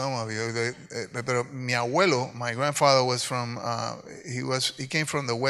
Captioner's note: speaks in Spanish